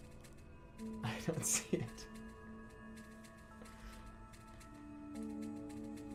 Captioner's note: giggling